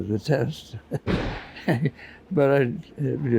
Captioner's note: metal crashing in background